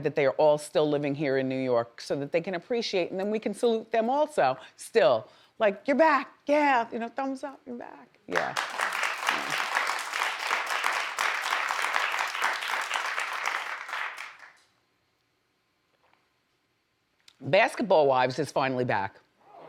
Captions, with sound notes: that they're all still living here in New York, so that they can appreciate, and then we can salute them also. Still like your back, yeah, thumbs up and back, yeah. (audience applauds) Hmm. (audience applauds) Basketball Wives is finally back.